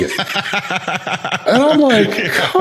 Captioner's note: laughs